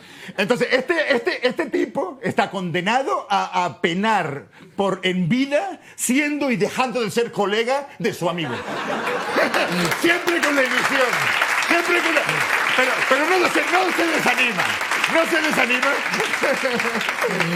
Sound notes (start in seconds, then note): 8.8 laughter and applause